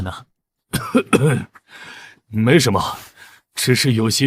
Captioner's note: cough cough